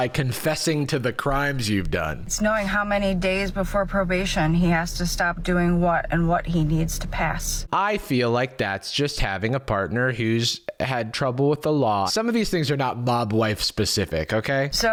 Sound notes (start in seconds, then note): none